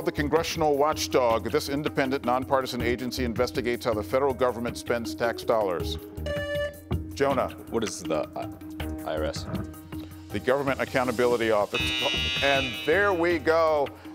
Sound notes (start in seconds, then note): 4.8 buzzer beeps